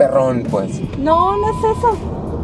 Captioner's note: beeping sound